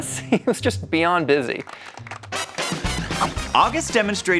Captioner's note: crowd lightly clapping